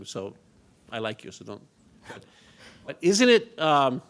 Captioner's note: laughs